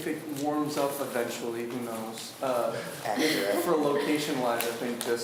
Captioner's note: laughs